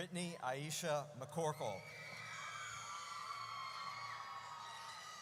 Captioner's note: audience cheers